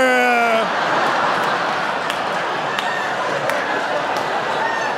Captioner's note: audience laughing